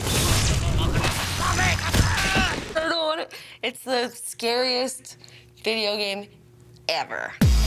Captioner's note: groaning